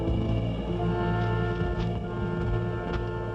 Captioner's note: dramatic music; footsteps